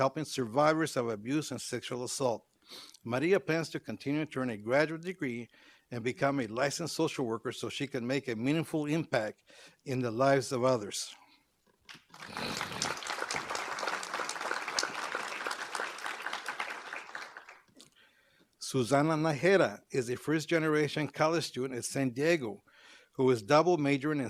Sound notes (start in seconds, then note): 11.9 applause